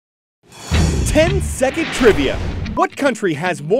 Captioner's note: voice-over